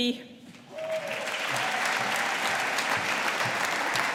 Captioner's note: audience applauding